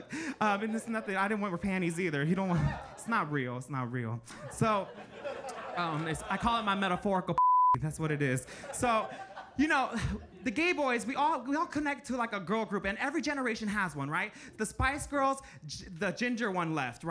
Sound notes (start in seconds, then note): 2.8 audience laughing; 7.4 beep; 8.1 audience laughing